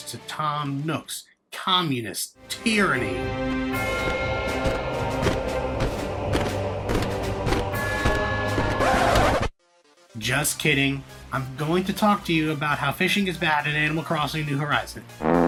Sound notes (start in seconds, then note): 2.5 upbeat music; 3.2 horse gait sound; 15.2 farting sound